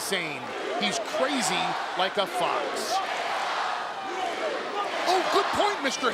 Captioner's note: crowd chants